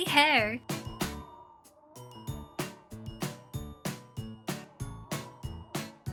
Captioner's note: wind whistling; playful music